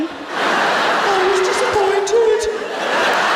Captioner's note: birmingham accent